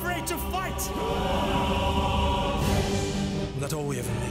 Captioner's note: all shouting